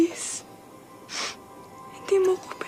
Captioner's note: sniffles